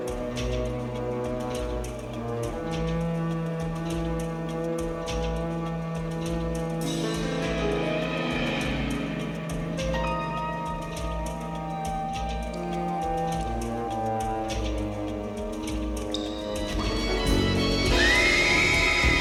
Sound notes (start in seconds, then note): 15.3 dripping; 17.4 screaming